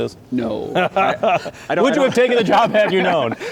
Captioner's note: laughing